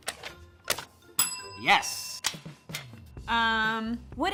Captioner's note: bell dings